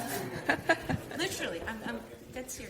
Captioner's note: audience chuckles